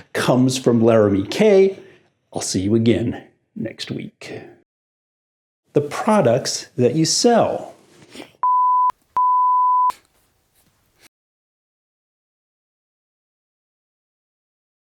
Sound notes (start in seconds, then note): 8.4 beeping sound